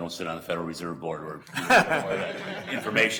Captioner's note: board laughing